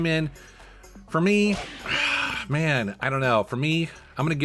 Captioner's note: sighs